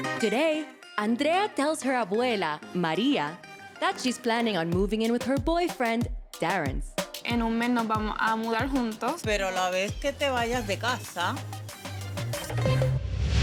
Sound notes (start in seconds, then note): 7.5 speaking Spanish